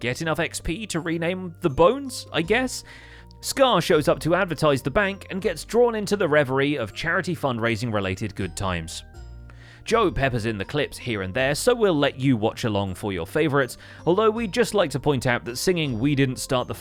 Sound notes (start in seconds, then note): none